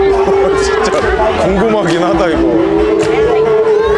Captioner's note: laughing